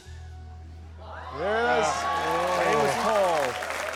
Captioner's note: cheering, applause